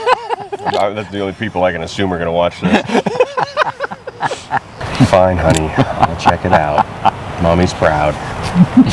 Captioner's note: laughing